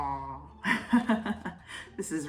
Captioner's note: laughter